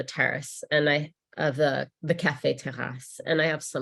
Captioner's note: speaks in French